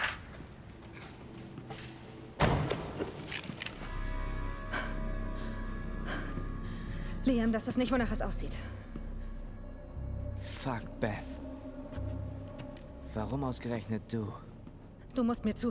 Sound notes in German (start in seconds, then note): 2.2 schweres atmen